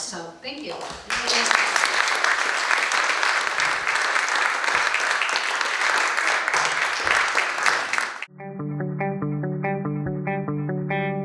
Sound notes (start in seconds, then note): 1.1 audience applauding; 7.4 upbeat music